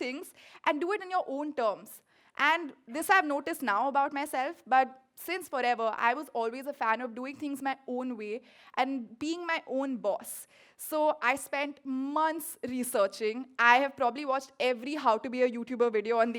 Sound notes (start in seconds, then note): none